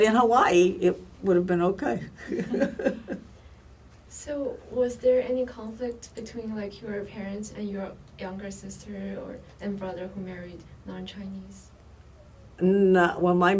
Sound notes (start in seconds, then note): 2.2 laughs